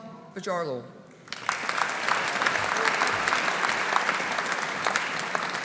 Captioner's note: audience applauding